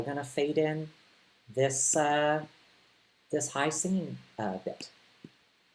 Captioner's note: none